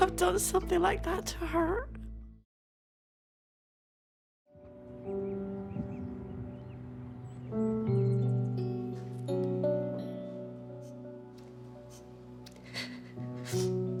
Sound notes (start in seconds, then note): 8.4 somber music; 12.5 sobs